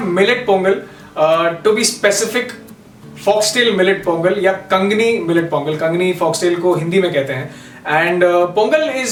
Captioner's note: in hindi